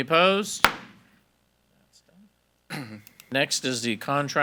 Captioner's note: gavel bangs